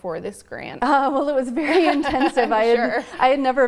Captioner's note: laughs